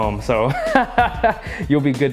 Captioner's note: laughs